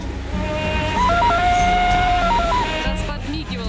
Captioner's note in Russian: вопли Тарзана